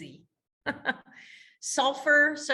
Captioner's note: laughing